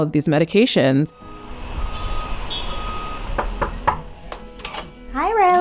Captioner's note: city traffic ambience; knocking